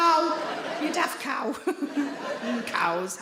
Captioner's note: audience laughing